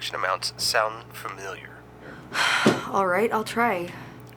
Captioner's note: sighs